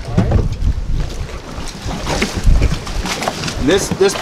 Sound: cowl thudding

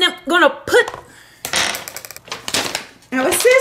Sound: clatter

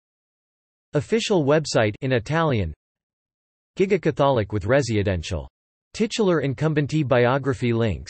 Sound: in Italian

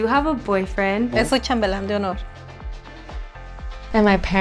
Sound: speaking Spanish

